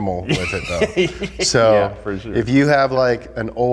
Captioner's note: laughs